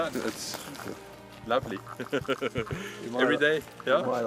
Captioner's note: laughs